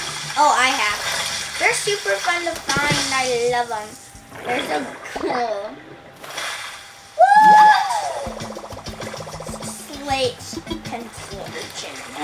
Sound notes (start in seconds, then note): 6.1 water splashing; 7.2 cheering